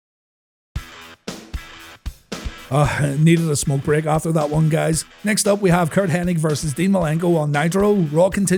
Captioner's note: sigh